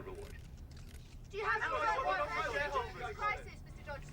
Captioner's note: reporters clamoring